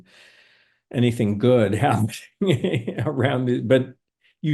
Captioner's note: laughing